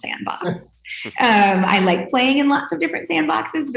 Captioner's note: panel members laugh